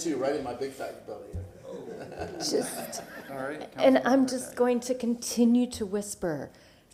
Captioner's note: laughter